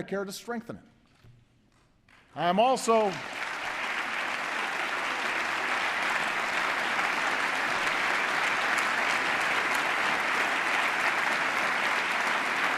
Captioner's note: applause